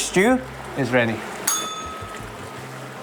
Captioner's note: bell rings